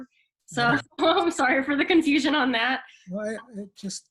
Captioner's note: chuckles